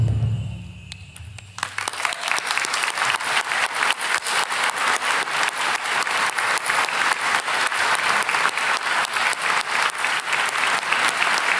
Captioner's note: applause